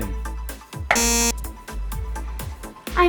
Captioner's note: beep